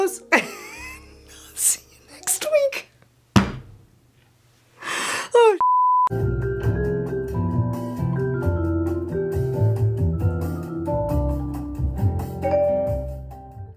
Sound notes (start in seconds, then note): 0.3 laughs; 5.6 beep; 6.1 cheerful serene music